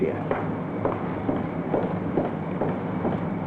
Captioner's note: footsteps